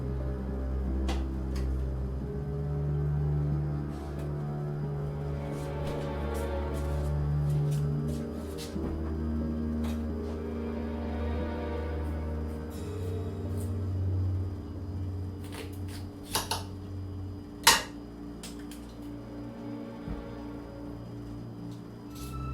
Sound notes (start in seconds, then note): 0.2 eerie dramatic music continues; 10.2 eerie dramatic music continues; 15.4 knife crackling; 20.2 eerie dramatic music continues